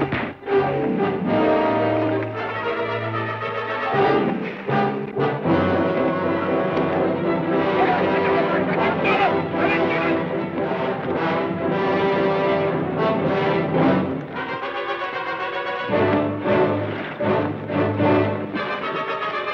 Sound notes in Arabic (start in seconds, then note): 2.5 موسيقى أوركسترالية درامية; 7.8 صراخ بعيد